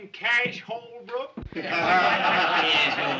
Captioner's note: laughter